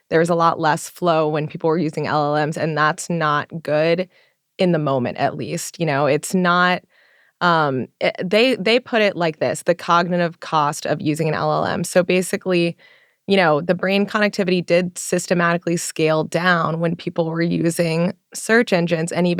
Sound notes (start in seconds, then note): none